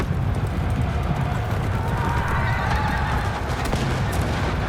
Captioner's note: soldiers shouting